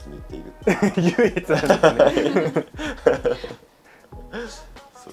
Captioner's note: laughs